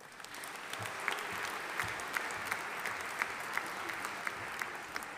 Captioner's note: audience applauding